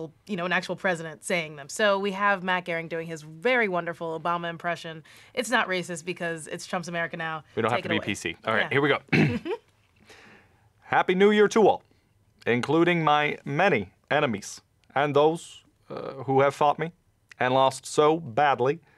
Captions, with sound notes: You know, an actual president saying them, so we have Matt Gehring doing his very wonderful Obama impression. It's not racist because it's Trump's America now Take it away. - We don't have to be PC. Alright, here we go *clears throat* *giggling* [in Obama voice] "Happy New Year to all including my many enemies and those eh, who have fought me and lost so badly